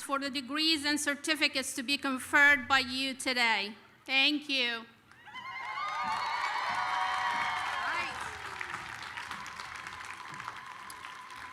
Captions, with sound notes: for the degrees and certificates to be conferred by you today. Thank you. [APPLAUSE]